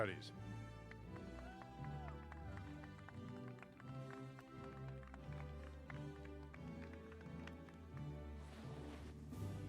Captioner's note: applause